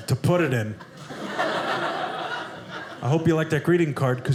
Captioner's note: audience laughing